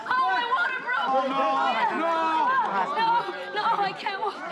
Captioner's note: groans